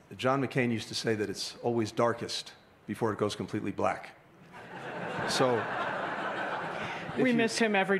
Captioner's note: laughter